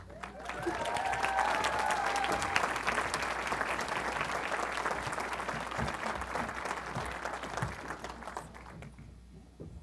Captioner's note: applause